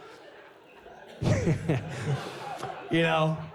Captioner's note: laughs